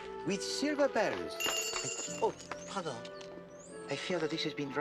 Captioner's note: rings